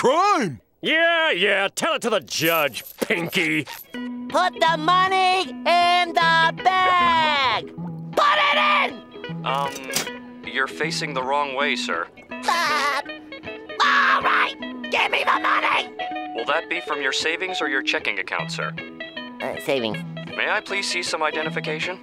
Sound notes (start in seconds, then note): 12.4 laughing